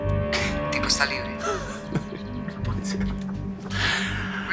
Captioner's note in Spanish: Ríe